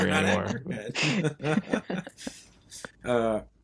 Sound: laughing

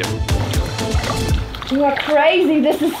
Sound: water splashing

